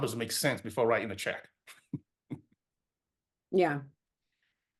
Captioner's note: laughs